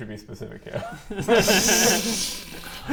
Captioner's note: curious laughs